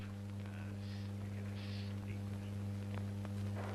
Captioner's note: grumbling